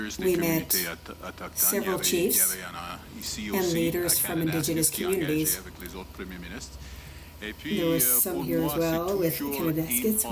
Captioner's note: speaking French